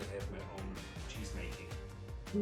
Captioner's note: laughs